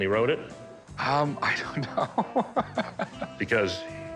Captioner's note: chuckling